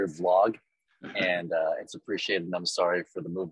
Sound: chuckles

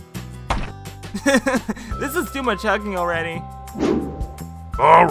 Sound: laughing

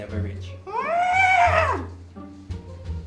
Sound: elephant noises

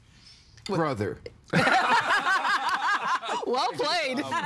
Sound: everyone laughing

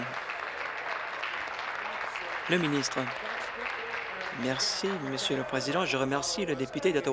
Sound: applause

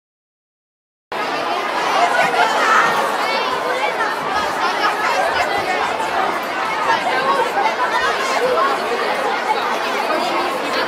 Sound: crowd noise

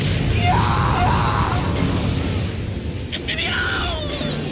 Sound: scream of the main tank

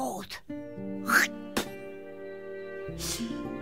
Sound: spits

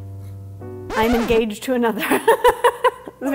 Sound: record scratching; laughing

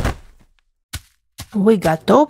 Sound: footsteps

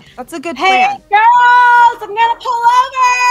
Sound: yelling

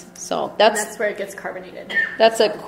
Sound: voiceover

